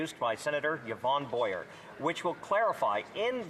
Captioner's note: none